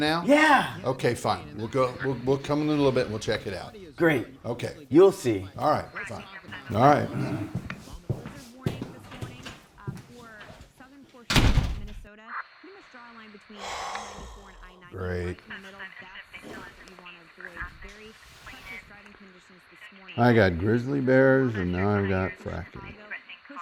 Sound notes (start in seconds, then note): 11.3 door slams; 13.6 Tom sighs